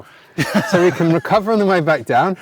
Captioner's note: laughs